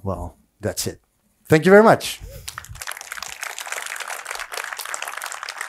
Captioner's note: audience applauds